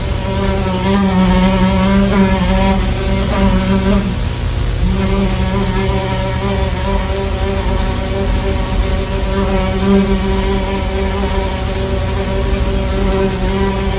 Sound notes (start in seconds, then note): 0.0 larger fly buzzing